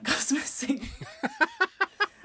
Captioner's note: laughing